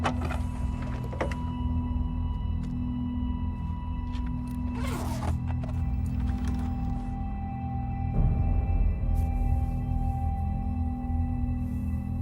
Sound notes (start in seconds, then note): 0.3 door clicking; 4.5 bag unzipping